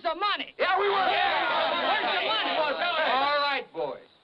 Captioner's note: people yelling